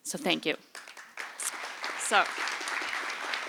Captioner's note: applause